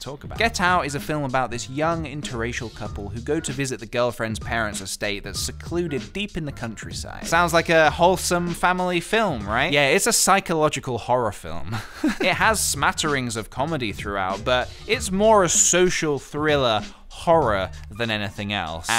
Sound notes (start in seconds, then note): 11.7 laughs